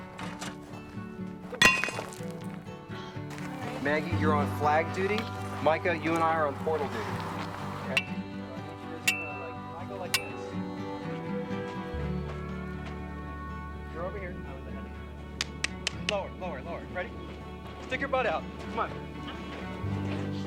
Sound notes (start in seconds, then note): 1.5 metal clanging; 9.0 metal clanging; 11.0 mellow guitar music